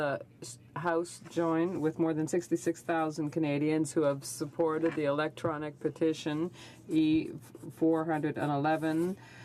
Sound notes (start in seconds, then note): 3.1 speaking French